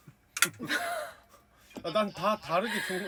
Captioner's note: haha